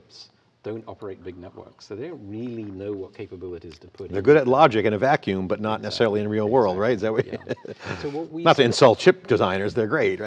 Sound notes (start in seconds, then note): 7.1 laughs